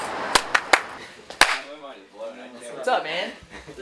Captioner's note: clapping